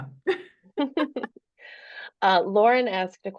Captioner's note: laughs